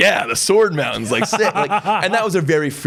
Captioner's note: laughs